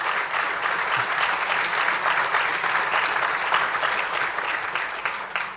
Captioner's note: applause